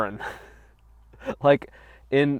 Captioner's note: chuckles